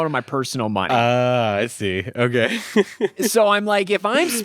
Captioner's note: laughs